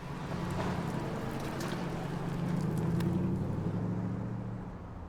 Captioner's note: car leaving